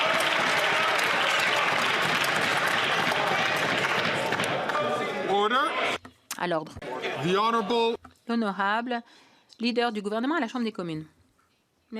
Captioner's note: some Applause